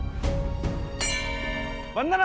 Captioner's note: bell rings